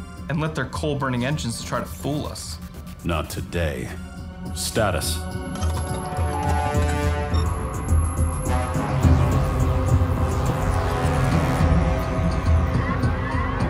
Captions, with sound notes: And lit their coal-burning engines to try to fool us! Not today. Status? [ instruments activating ] [ shield generators engaging ]